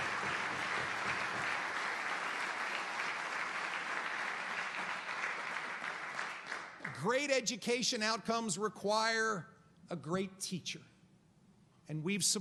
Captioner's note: applause